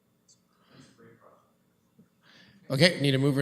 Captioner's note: clerk speaks off mic